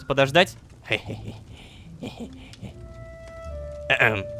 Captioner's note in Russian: Кхе-хе-хе.. Кхе-хе-х.. Кхе